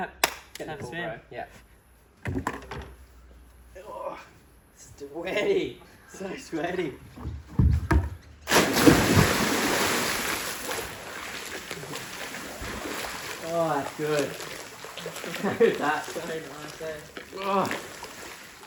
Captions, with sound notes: Getting up to swim. Yeah. Sweaty, so sweaty. (water splashes) Oh, that's good! (laughs)